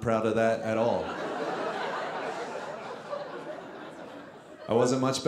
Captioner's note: audience laughing